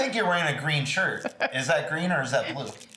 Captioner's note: laughs